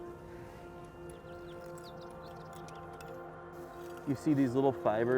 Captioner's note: birds singing